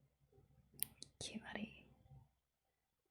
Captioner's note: whispers